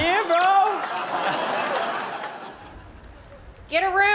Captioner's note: laughs; audience laughs